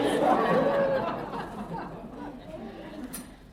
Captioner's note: laughter